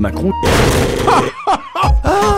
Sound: wonderful laugh

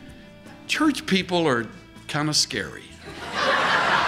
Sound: laughter

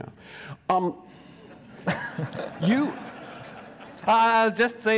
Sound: audience laughs

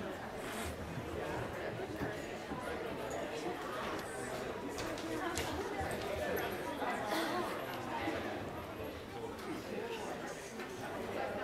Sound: crowd chattering

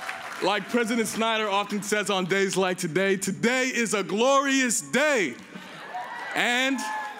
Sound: cheers and applause

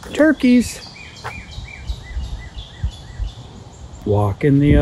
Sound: birds chirping

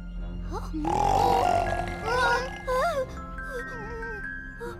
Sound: loud snoring; whimpers

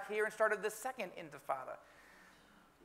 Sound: speaking in foreign language

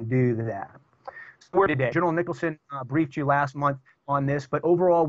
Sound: audio corruption

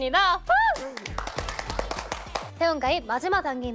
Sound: clapping

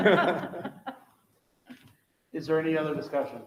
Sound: members laughing

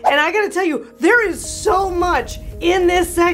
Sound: fire crackling

